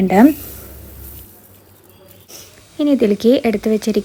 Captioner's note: cooking sound